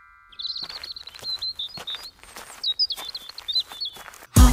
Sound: birds chirping

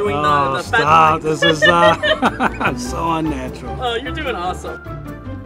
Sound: laughs; playful music

